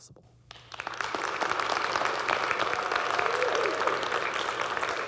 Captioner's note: audience clapping